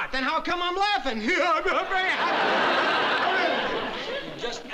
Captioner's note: laughs